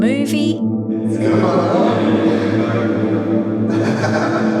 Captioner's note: distorting speaking; laughing